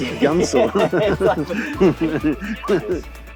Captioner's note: laughs